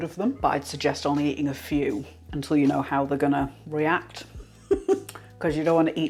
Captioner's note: laugh